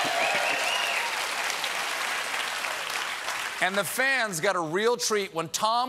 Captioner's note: cheers and applause